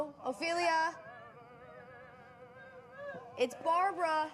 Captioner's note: Ophelia crying